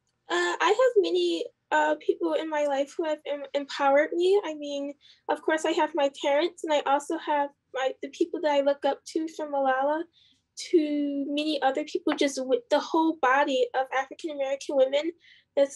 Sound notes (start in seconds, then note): none